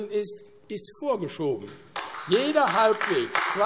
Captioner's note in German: Beifall AfD